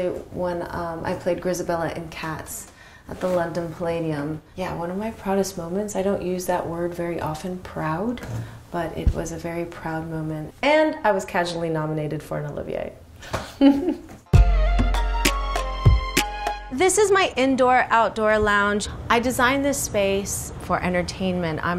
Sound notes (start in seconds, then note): 13.4 chuckles